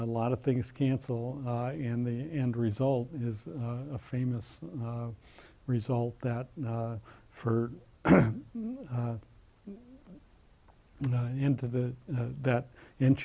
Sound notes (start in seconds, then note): 8.0 cough